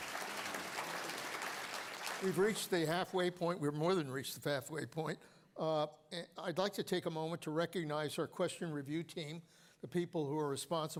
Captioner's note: applause